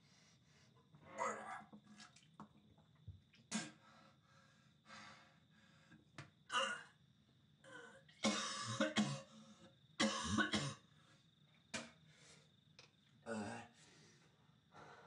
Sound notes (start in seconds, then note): 1.2 crickets chirping; 1.2 vomiting